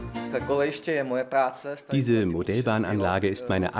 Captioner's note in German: tschechisch